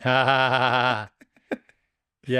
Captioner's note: laughing